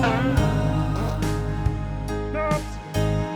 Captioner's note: spring bouncing; squelching